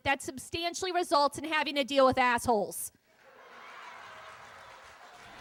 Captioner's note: laughter, cheers